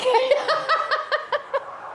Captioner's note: laughing